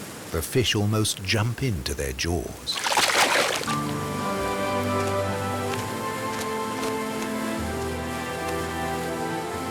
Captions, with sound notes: The fish almost jump into their jaws. (water splashing) (bright instrumental music)